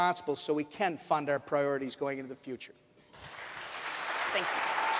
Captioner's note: audience applauds